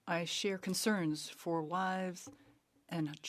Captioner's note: speaking French